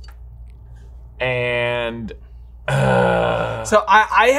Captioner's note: exclaims